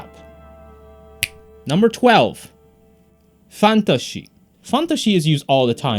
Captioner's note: fingers snap